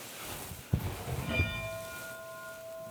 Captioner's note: bell ringing